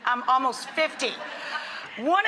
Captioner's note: audience laughing